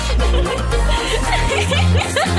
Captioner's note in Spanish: Risas